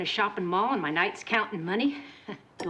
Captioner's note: chuckles